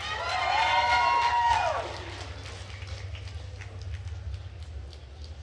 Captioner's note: attendees cheering and applauding